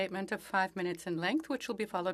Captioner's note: speaking French